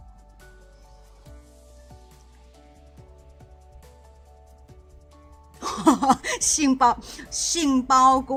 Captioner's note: laughs